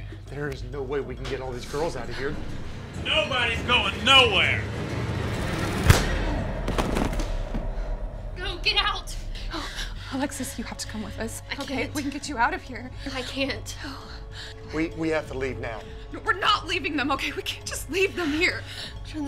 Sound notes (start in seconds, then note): 4.9 suspense music; 6.7 man thuds